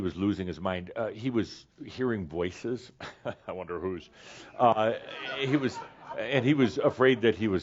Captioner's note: chuckles; some laughter